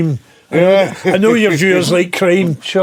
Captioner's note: laughing